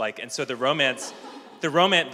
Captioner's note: laughter